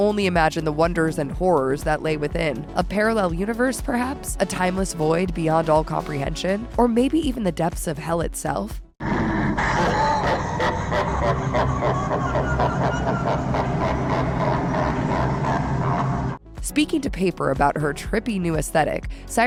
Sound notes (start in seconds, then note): 9.0 Satan laughs